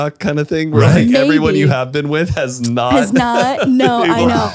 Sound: laughs

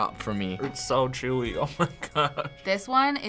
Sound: chuckling

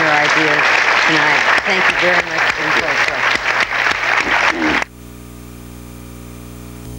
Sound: audience applauding

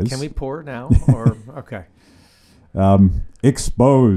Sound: laughs

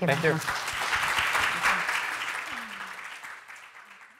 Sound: audience clapping

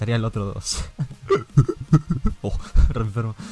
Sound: monkey sounds

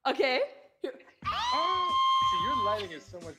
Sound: screams

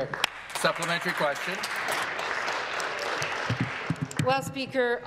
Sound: applause

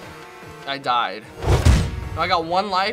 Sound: whump!

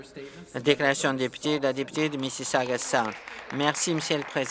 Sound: some Applause

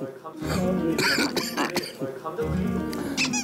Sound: cough cough cough

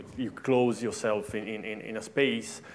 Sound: none

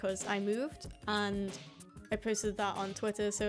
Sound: none

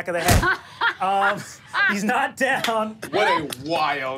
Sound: laughs

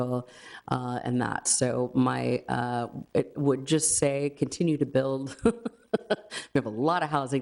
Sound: laughs

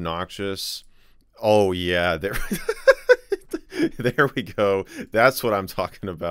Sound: laughs

